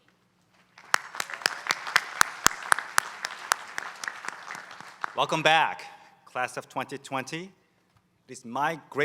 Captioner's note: applause